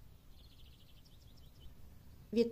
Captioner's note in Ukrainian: голоси птахів